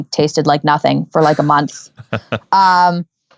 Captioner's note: laughing